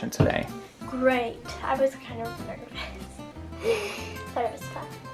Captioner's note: laughs